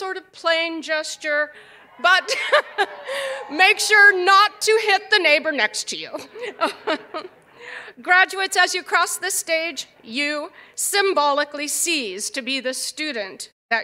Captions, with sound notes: PAUSE, YOU MAY MAKE SOME SORT OF PLANE GESTURE. [LAUGHTER] [CHEERS AND APPLAUSE] BUT MAKE SURE NOT TO HIT THE NEIGHBOR NEXT TO YOU. GRADUATES, AS YOU CROSS THIS STAGE, YOU SYMBOLICALLY CEASE TO